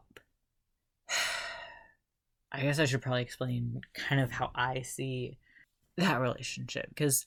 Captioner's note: sigh